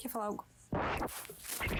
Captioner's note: cat rubbing against the microphone